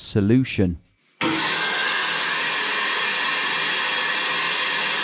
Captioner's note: tap pouring loudly